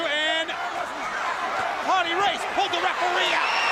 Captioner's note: crowd chatter